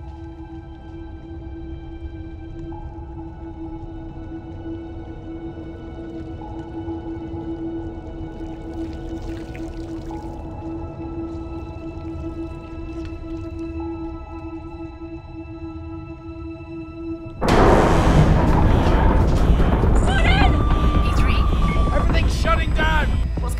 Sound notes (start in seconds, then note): 0.1 moves to soft ominous music; 5.5 water trickling; 17.2 submersible rumbling; 17.8 alarm wailing